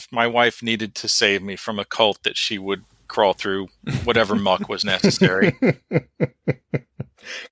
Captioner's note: laughs